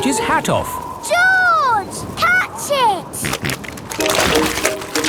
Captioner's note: snorting